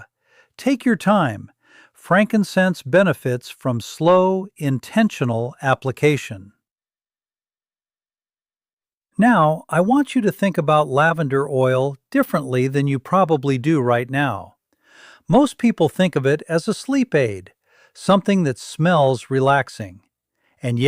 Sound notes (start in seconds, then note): 7.6 pause